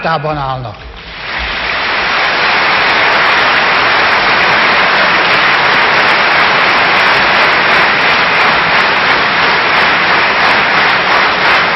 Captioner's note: applause